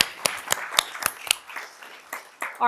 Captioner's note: applause